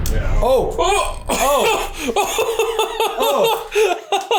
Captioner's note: laughs